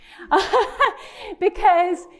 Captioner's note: presenter laughing